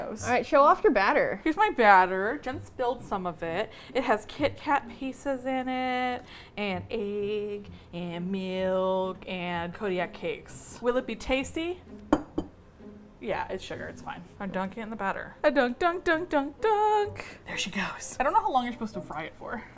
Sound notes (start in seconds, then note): 15.5 singsong; 17.4 whispered